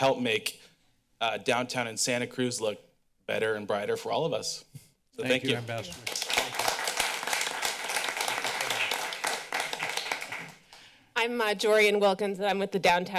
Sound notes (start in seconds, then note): 5.5 clapping